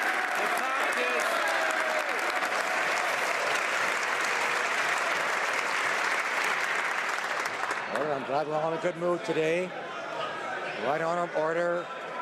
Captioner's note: some Applause